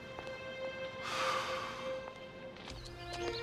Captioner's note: sighs